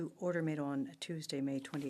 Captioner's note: speaking French